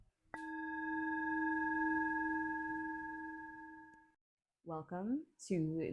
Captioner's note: chime